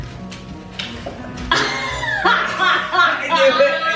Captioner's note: laughing